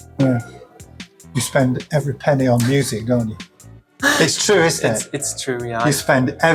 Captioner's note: laughs